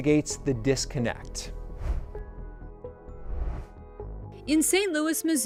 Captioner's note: air whooshing